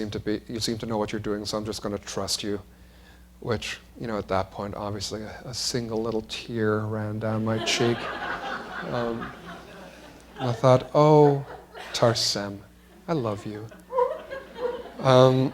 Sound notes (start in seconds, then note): 9.3 laughter